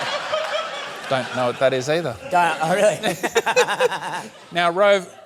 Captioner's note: laughter; laughs